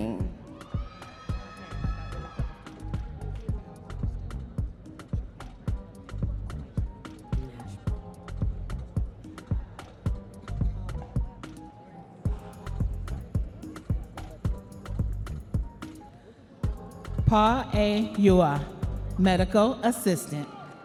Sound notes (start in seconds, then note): 2.8 audience members cheering; 5.8 upbeat music; 16.6 upbeat music continues